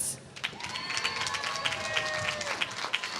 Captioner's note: applause